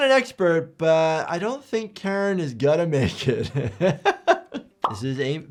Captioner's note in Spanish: risas